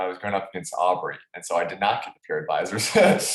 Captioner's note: laughs